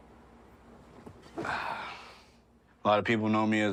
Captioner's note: sighs